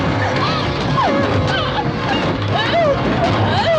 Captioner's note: whimpering